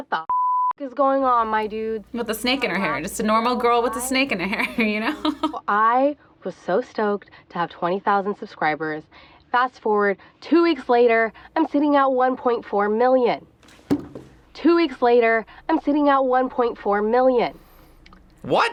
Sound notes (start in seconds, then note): 5.5 laughs